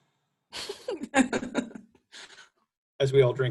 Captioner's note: laughs